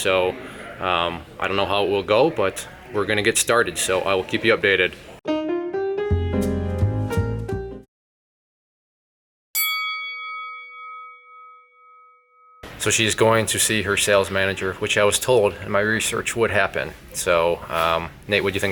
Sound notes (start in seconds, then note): 5.3 smooth jazz music; 9.5 boxing bell rings